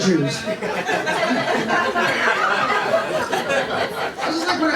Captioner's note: laughter